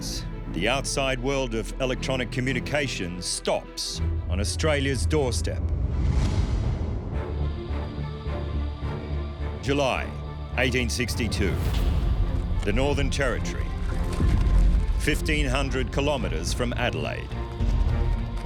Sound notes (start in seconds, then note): 7.0 dramatic music; 13.8 horses galloping